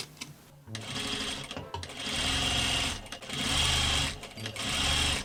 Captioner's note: sewing machine sounds